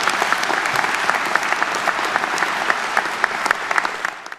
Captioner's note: audience applauding